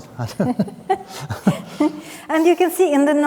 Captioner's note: both laughing